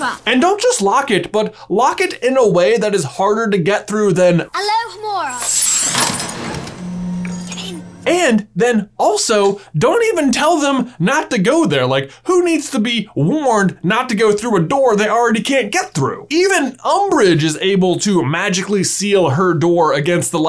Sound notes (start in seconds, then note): 5.4 Hermoine opening a door